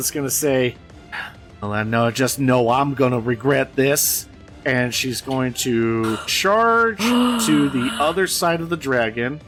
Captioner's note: sigh